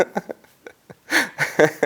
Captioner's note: laughs